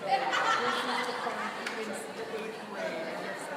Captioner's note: laughing